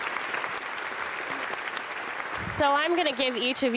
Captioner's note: audience applauds